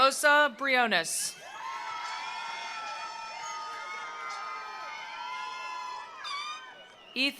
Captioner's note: attendees cheering; attendees applauding